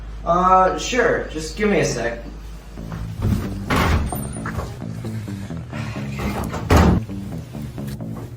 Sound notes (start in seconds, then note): 2.9 door opens; 6.1 door closes